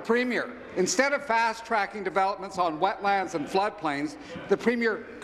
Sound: laughter

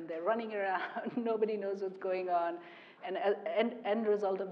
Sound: laugh

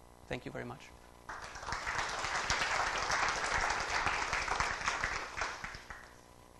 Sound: applause

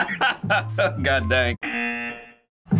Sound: buzzer

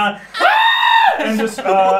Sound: screams

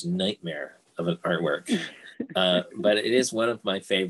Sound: laughing

